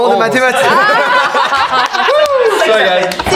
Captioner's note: the group bursts out laughing